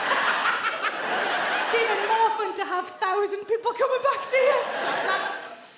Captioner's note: Sarah laughs